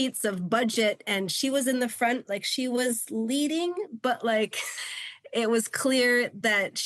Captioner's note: chuckles